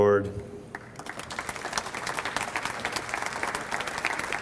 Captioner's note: audience applauds